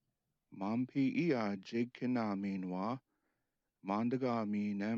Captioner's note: speaking Native language